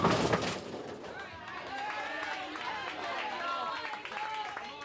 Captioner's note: crowd cheers